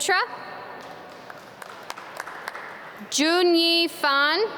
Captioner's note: audience clap